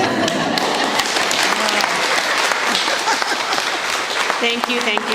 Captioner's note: laughter, applause